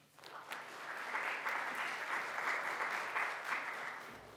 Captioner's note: audience applauds